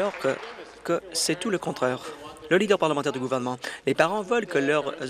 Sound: applause

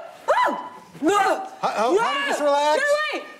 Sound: shouting

